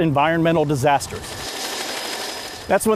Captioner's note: helicopter rotor whirring